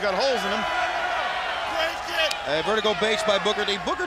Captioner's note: crowd cheering